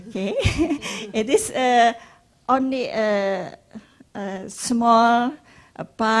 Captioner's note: laughs